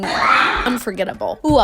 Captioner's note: screams